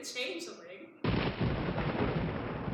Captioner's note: thunder